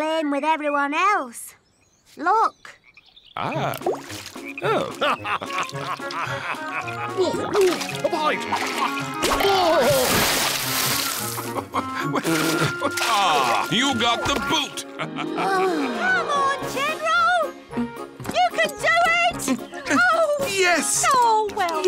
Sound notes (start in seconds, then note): 4.6 chuckles; 10.4 splash; 11.2 chuckles; 15.4 sighs